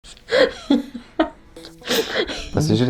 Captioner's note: laughs in Lithuanian